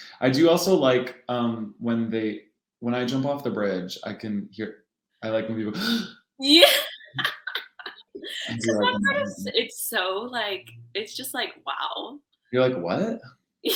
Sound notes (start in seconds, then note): 5.7 gasps; 8.1 laughing